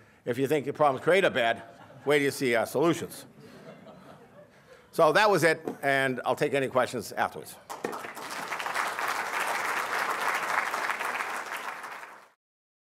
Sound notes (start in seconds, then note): 7.6 applause